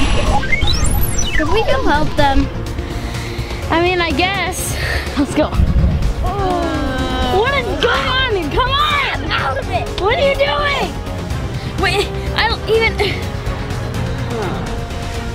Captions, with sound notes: - Should we go help them? - I mean I guess. Let's go. (All groaning) - Come on! Come on! - Snap out of it! - What are you doing? Wha.. Eh.. I don't even.. eh..